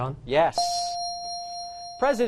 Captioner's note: bell dings